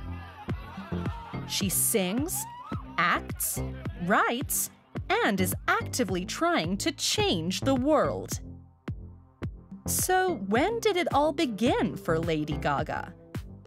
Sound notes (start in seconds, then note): 3.1 crowd chattering; 4.9 upbeat bass music